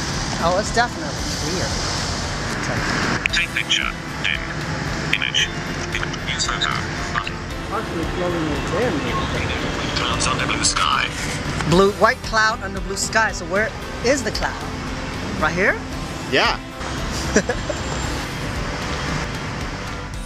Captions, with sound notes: Oh it's definitely clear "You are looking at white clouds under blue sky" White cloud under blue sky... so where is the cloud? Right here? Yea *laughs*